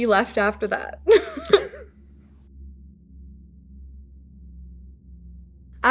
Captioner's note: chuckle